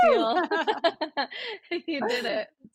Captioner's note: both laugh